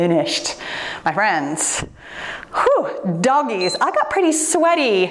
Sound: timer beeps

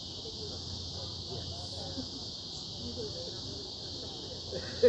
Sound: crickets chirping

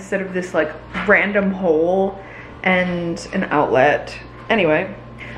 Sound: none

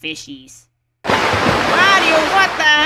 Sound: water splash

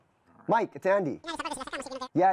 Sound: super fast cartoon voice over telephone

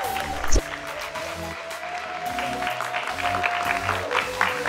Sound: cheers and applause

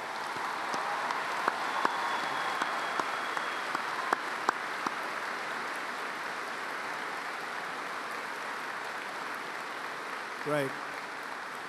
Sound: applause

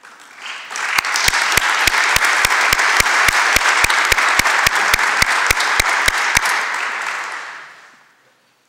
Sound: applause

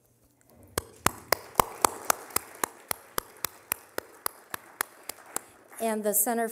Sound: applause

